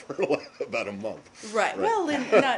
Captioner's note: laughter